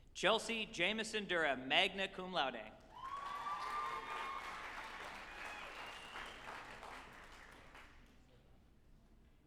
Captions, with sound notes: Chelsea Jamison Durrah, magna cum laude, (group applauding and cheering)